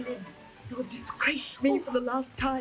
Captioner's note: Marquesa whimpering